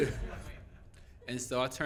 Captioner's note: laughing